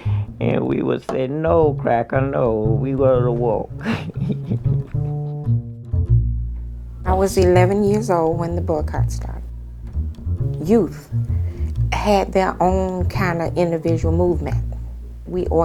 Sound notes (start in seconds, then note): 3.3 soundbite of archived recording; 3.8 laughter